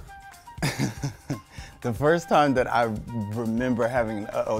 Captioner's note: laughs